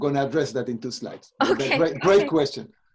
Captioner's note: laughs